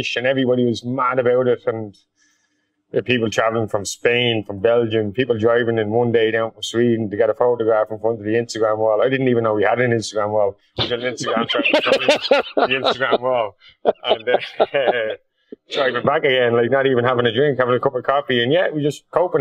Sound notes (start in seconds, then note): 10.8 both laughing